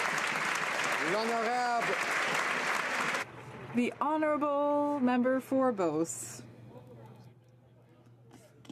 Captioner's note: some Applause